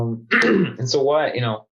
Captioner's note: clears throat